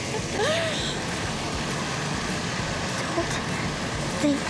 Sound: Chelsea laughing

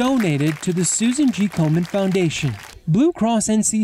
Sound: applause

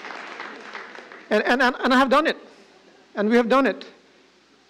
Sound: applause

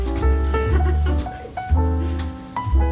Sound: laughter

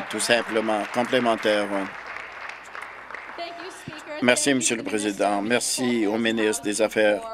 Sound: applause

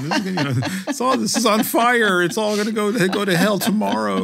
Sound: laugh

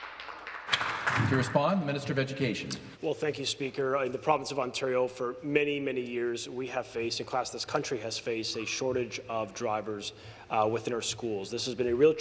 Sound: some Applause

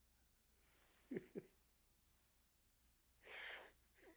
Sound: laughing

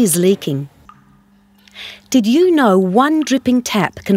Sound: tap dripping slowly

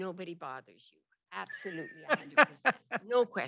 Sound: laughs

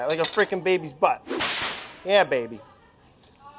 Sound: slapping

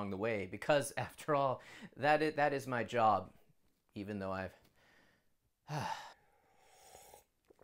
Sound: sigh

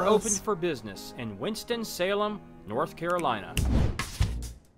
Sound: voice-over

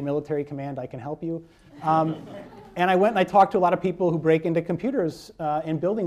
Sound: laughter

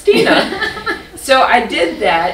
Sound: laughter

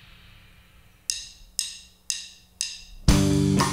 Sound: drum sticks clinking; groovy rock music

